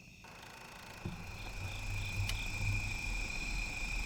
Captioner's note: crickets chirping